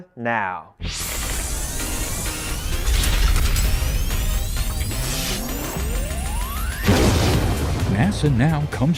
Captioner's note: sound Effects